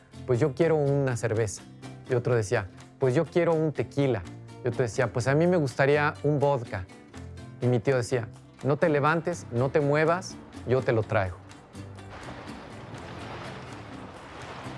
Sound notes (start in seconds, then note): 10.7 water lapping; 11.8 boat creaking